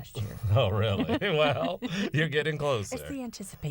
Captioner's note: laughter